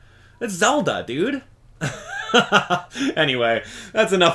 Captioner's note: chuckle